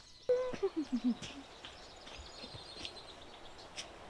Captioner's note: humming happily